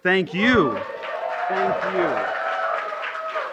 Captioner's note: applause